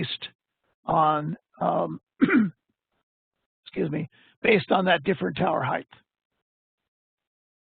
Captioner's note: coughs